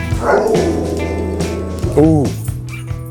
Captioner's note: dog howls